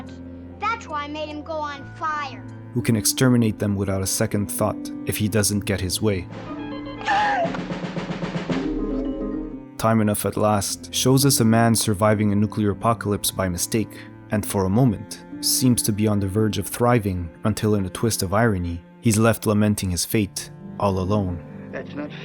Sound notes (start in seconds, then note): 7.0 scream